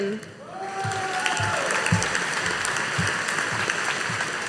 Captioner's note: audience applauding